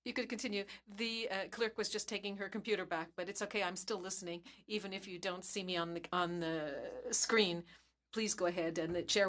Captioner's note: speaking French